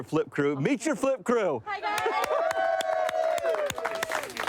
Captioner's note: crew cheering